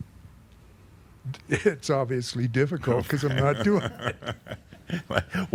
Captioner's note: they chuckle